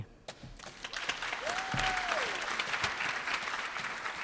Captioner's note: applause